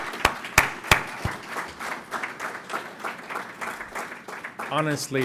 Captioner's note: applause